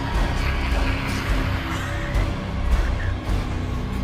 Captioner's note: demon screams; tense frightening music